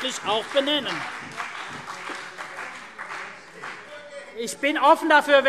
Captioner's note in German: Beifall CDU und BÜNDNIS 90/DIE GRÜNEN - Lachen Freie Demokraten